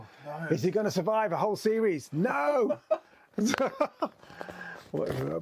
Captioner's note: laughs